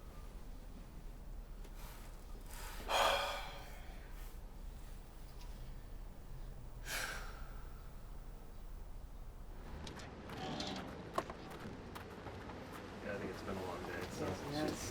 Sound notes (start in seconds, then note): 2.5 sighs heavily; 6.8 exhales sharply